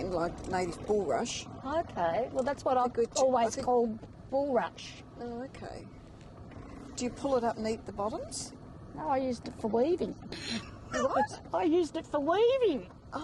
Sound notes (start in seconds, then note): 10.4 laughs